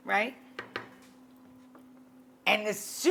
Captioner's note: spoon clunks